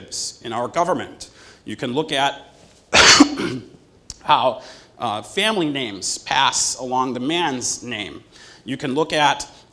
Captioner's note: cough